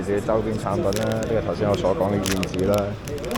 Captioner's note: swallow